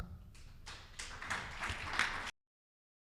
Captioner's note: audience applauding